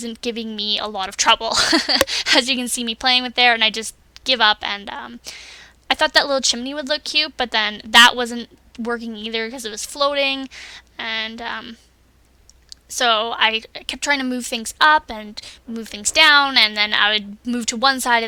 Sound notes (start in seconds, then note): 1.5 laughs; 5.3 laughs again